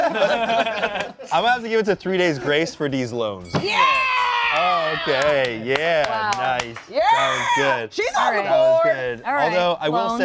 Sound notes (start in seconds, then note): 0.0 laugh; 3.4 bell dings